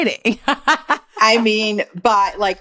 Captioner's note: laughing